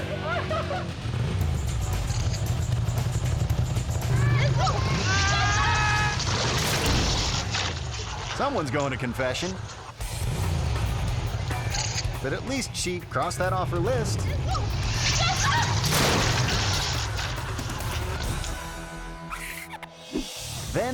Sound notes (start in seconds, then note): 0.0 people speaking in a foreign language; 0.0 people laughing; 0.0 bike revving; 6.1 rider yelling; 6.7 bike crashing; 10.3 bike revving; 10.3 rock music; 14.7 rider yelling; 14.8 bike crashing; 18.3 marker scribbling